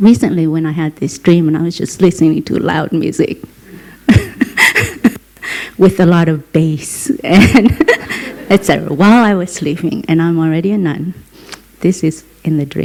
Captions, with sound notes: And so, recently when I had this dream and I was just listening to a loud music, with a lot of base, (Laughter) I said, 'Wow! I was sleeping, and I'm already a nun'.